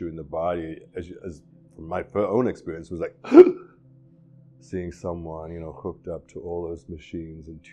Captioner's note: gasping